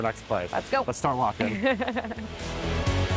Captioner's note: Robyn laughing; upbeat music